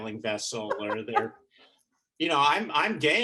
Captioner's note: chuckling